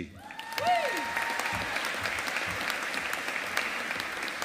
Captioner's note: audience applauding